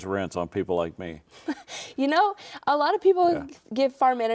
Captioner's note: chuckles